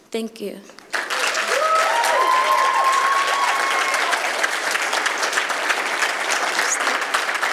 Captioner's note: applause